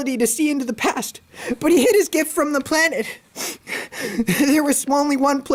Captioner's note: sobbing